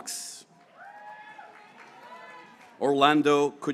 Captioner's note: graduates cheering